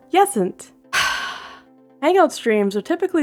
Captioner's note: sigh